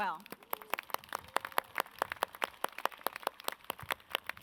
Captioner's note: audience claps